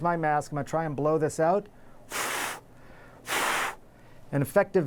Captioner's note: blowing